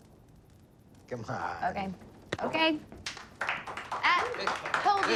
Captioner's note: la foule applaudit